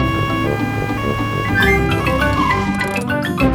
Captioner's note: siren wailing